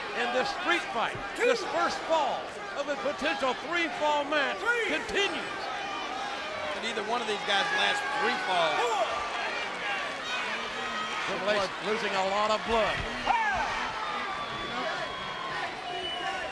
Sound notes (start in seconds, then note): 9.1 fans cheering